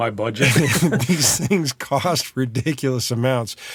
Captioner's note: laughing